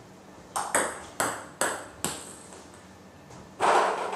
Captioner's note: balls ping pong hitting